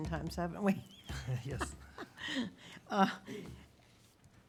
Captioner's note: laughter